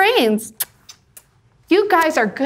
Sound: lips smacking

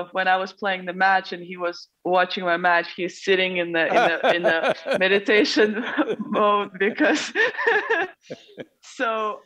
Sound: both laugh

